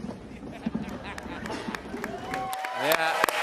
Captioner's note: laughter